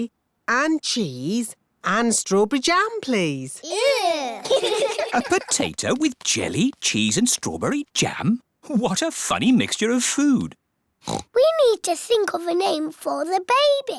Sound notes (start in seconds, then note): 3.6 giggling; 11.0 oinks